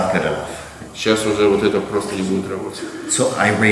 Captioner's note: speaking in a foreign language